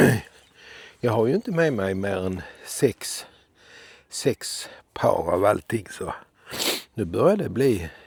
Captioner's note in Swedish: harklar sig